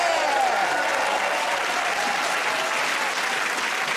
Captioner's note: cheers and applause